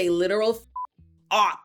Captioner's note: beep